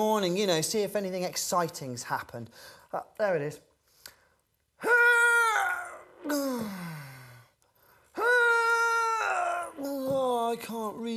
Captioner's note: straining to reach